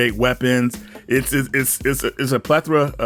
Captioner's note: stuttering